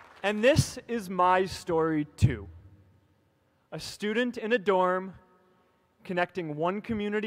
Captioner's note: applause